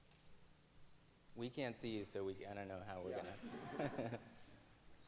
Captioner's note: laughs